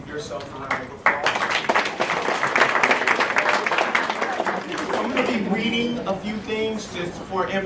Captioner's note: applause